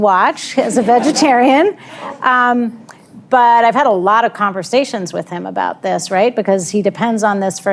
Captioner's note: laughter